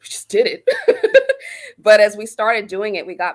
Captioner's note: laughter